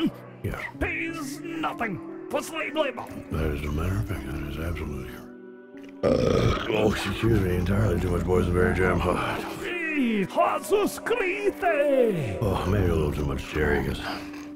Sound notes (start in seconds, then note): 6.0 burps loudly